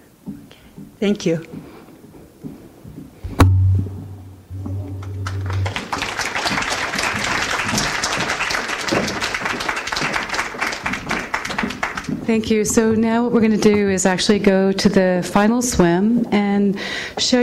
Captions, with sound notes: thank you [audience applauds] thank you so now what we're gonna do is actually go to the final swim and show